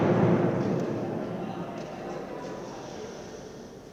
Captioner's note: audience clamoring